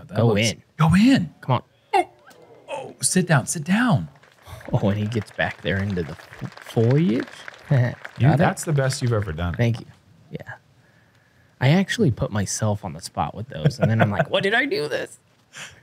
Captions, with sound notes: -Oh, yes, that looks-- Go in. -Come on. -Sit down, sit down. -Oh, and he gets back there into the foliage. [chuckles] Is that it? -That’s the best you’ve ever done. -Thank you. I actually put myself on the spot with those and then I’m like, "Why did I do this?"